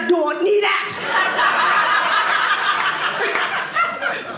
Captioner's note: audience laughing